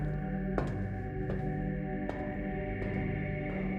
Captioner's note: sound of footsteps